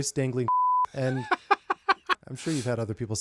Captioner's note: laughing